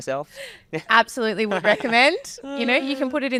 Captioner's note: laughing